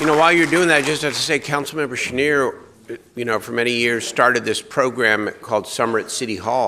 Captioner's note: applause